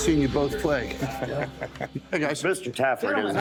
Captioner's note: laughs